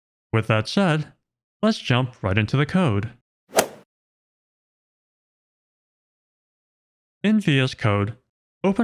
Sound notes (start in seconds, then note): 3.6 golf ball hit sound effect